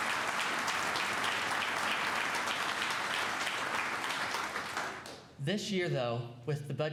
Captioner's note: applause